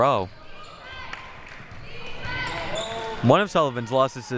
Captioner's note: clapping